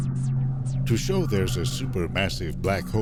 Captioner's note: voiceover